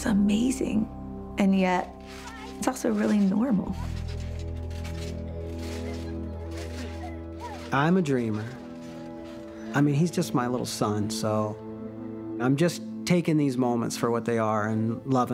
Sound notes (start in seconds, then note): 4.5 squeaking